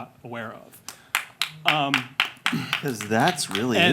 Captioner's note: clapping